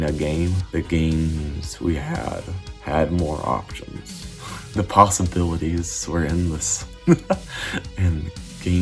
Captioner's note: laughs